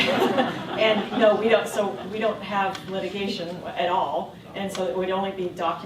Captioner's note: laughter